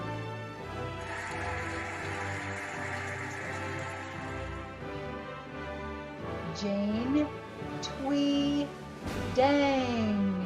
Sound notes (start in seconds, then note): 1.0 cheering and applauding